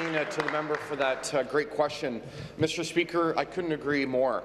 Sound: applause

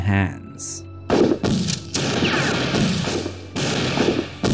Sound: gunshots firing

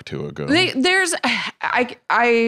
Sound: sighs

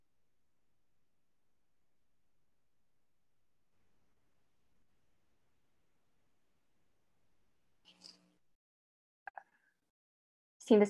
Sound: silence

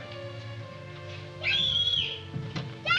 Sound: linda screaming

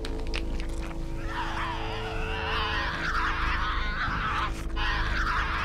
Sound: animal crunching; Tasmanian devil shrieking

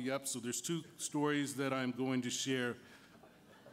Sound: laughter

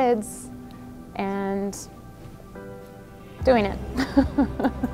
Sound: laughs

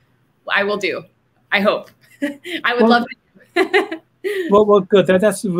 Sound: laughing

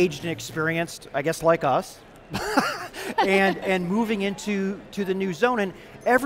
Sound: laughs

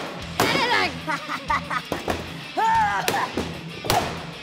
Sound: laughs

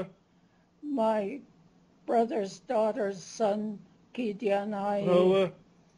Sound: non-english speech; non-english; non-english speech

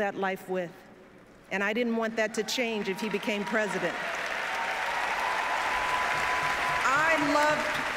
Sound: applause

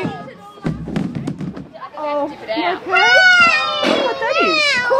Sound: child yells

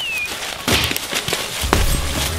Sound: leaves moving; footsteps

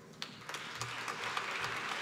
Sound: applause

